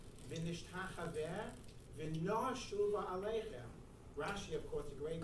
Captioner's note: speaking in foreign language